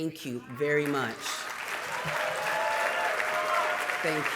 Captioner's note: applause and cheering